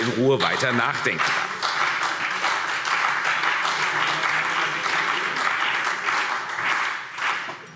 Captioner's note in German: Beifall CDU und BÜNDNIS 90/DIE GRÜNEN